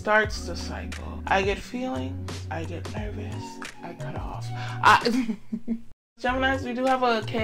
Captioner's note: chuckles